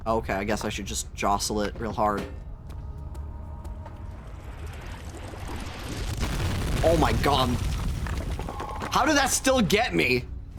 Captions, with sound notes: Okay, I guess I should just jostle it real hard. [Bubbling] [Loud boom] Oh my god. [Rocks falling] How did that still get me?